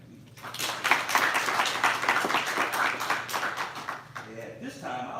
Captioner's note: applause